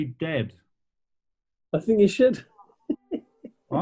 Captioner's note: giggling